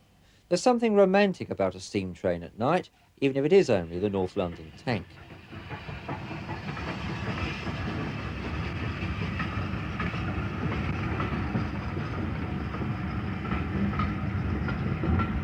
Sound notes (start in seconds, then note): 9.5 train passing